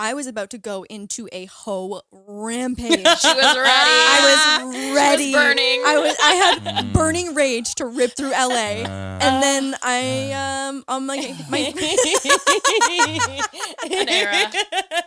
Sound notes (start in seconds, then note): 2.8 laughing; 11.2 all laughing